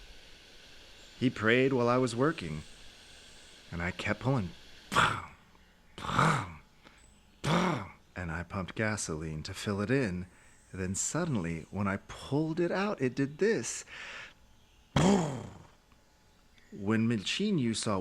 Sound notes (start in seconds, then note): 4.4 imitates engine sputtering